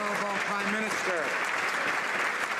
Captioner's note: some Applause